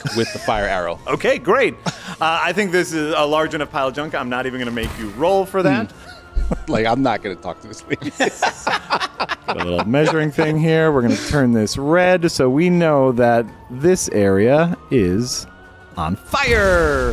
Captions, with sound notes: with the fire arrow. Okay, great. I think this is a large in a pile of junk. I'm not even gonna make you roll for that. Like, I'm not gonna talk to this lady. (laughing) - Got a little measuring thing here. We're gonna turn this red. So we know that this area is on fire.